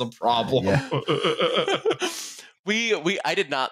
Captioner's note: laughter